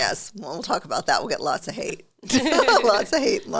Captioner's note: both laugh